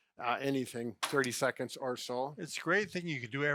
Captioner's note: chair thuds